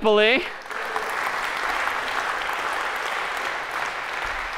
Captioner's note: applause